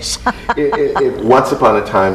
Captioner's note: chuckles